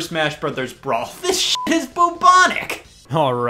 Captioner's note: beep